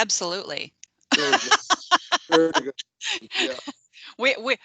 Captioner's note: laughing